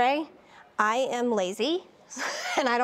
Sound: laughs

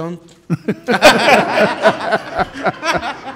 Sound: laughing

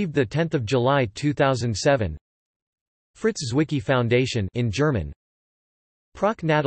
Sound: in German

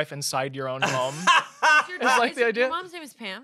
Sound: laughs

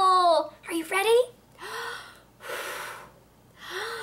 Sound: blowing noises

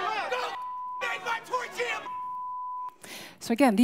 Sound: beep

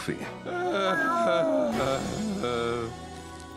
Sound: Heist sighs, Lazlo meows

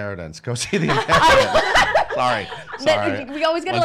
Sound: laughing

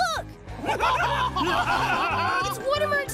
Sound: laughing

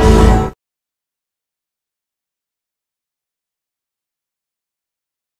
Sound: silence; electricity and mysterious music continuing

